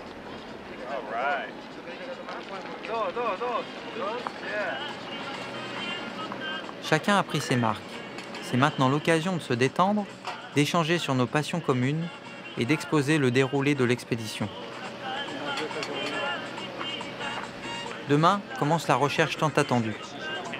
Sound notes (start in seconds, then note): 2.9 Spanish language